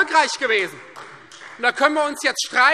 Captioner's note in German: Beifall Freie Demokraten